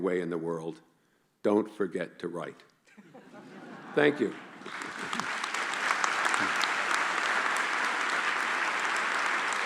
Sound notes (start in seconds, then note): 2.8 laughing; 4.1 applause